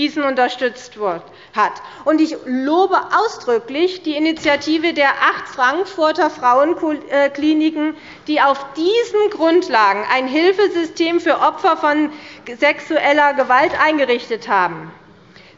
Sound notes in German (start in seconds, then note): none